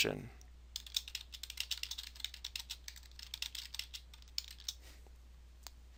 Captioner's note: computer keys clicking